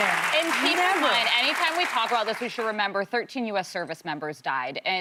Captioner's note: applause